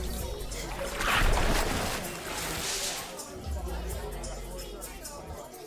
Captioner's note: water splashing; upbeat music